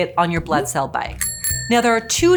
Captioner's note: bell dings